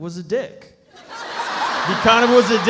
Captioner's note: audience laughs